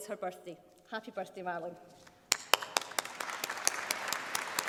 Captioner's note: applause